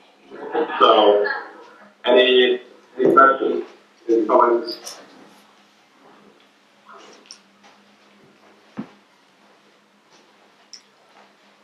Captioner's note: audience laughter off-screen